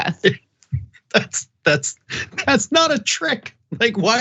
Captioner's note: laugh